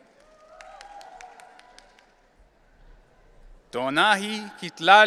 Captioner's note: audience cheering